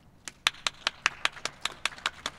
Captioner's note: applause